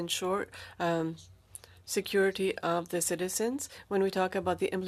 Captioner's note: speaking French